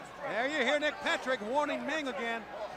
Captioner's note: crowd chatter